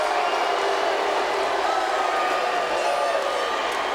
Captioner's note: audience jeers